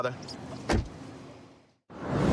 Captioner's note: door shuts